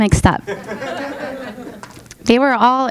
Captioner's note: audience laughing